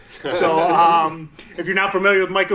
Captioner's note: all laughing